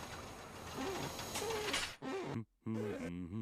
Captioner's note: glass squeaking